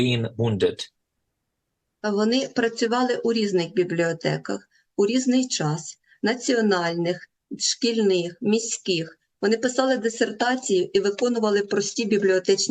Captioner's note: foreign language